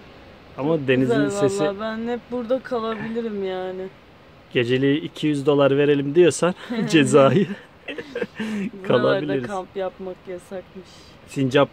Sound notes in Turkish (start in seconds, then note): 7.8 hehhe